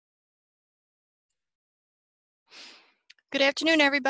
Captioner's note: silence